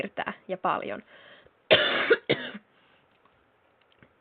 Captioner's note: cough cough